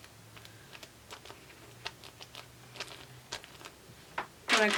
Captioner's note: sheet crumples